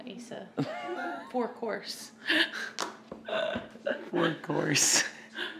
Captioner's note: laughs; laughs